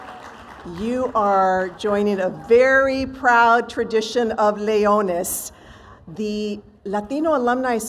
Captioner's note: cheers and applause